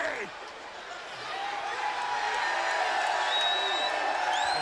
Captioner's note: audience cheering